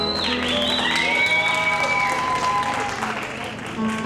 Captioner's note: cheering